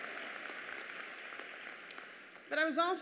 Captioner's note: applause